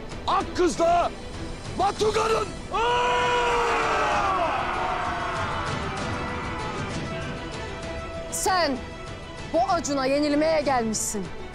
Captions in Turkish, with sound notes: ...Akkız'la... ...Batuga'nın! [Hücum sesleri] Sen... ...bu acuna yenilmeye gelmişsin...